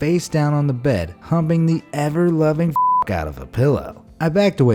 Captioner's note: beep